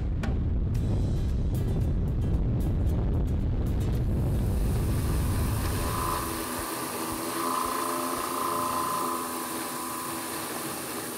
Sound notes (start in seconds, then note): 0.1 wind blowing; 5.1 wind generator whirring